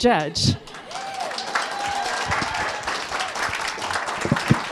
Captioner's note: audience applauding